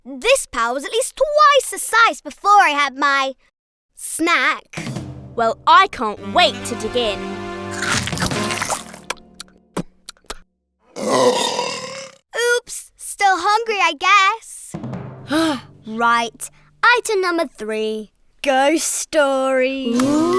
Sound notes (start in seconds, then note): 7.7 chomping; 9.4 smacking lips; 10.9 belching; 15.2 sighing; 19.9 spooky moaning